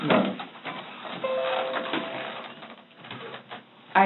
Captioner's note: Windows audio notification